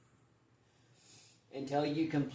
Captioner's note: inhales in; exhales out of mouth